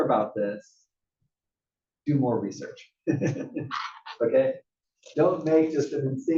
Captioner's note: laugh